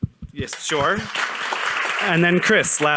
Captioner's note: audience applauding